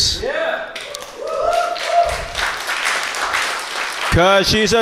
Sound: audience cheers

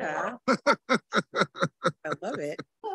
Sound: board members laugh

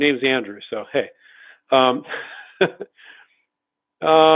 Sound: laughs

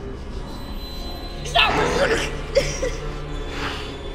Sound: whimpering; actor sniffing

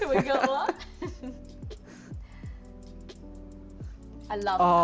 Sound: group laughing

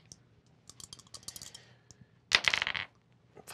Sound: dice rattle

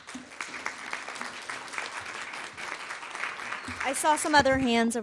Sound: audience clapping

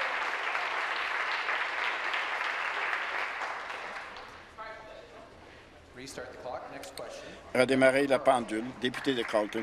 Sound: applause

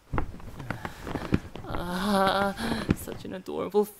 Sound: rustling

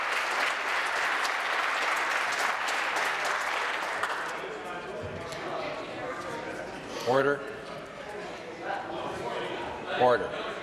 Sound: applause

